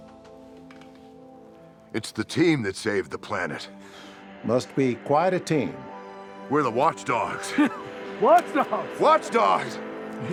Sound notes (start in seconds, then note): 7.3 laughs